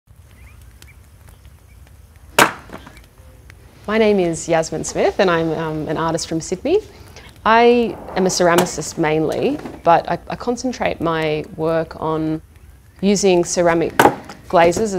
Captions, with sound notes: (chopping wood) My name is Yasmin Smith and I'm an artist from Sydney I am a ceramicist mainly, but I concentrate my work on using ceramic glazes